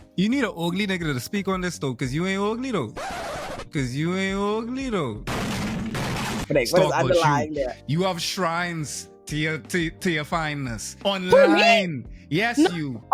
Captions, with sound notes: You need an ugly nigga to speak on this though because you ain't ugly though. Because you ain't ugly though. (gunshots) Thanks, I'm lying. You have shrines to your finest. Who knew? On the line, yes you.